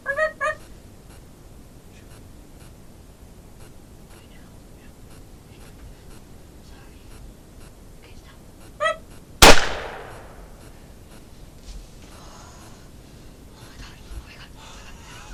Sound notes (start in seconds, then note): 0.0 imitating turkey call; 8.8 imitating turkey call; 9.4 gunshot